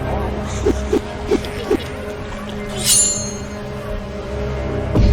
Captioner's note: wind whooshing